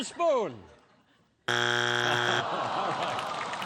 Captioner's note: buzzer